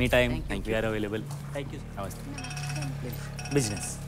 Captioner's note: Cellphone rings